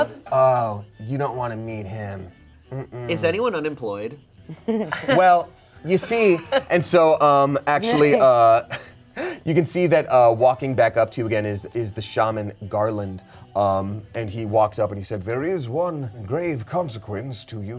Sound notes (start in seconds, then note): 4.5 laugh; 8.5 chuckles